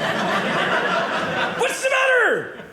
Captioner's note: audience laughing